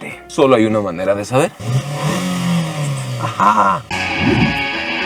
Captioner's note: engine roaring